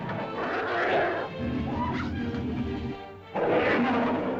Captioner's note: lizard snarls & growls; suspenseful music; lizard growls; cavepeople yelp; suspenseful music; lizard snarls & growls